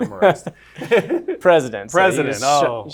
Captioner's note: laughter